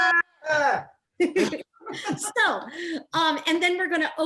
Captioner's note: all laughing